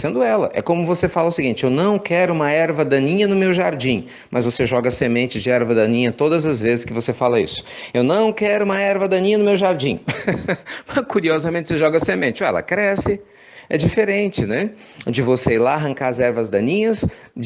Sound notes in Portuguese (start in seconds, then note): 10.0 risos